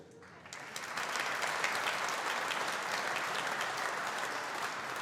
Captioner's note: audience applauding